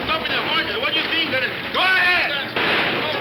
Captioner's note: gun fires